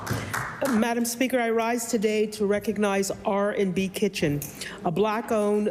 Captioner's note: applause